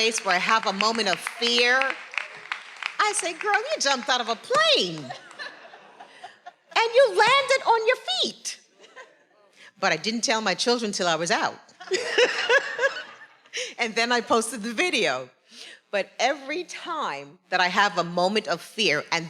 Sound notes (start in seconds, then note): 2.0 attendees applauding; 4.9 faculty laughing; 11.8 everyone laughing